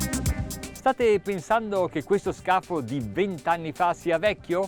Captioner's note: speaking foreign language